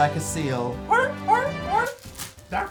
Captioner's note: barks like a seal